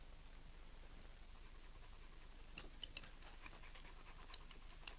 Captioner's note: dog panting